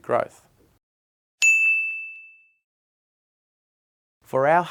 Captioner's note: bell dinging